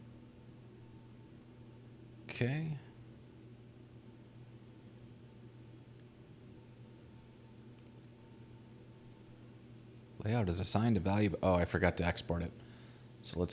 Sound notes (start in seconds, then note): none